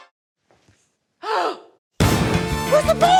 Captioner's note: gasps; explosion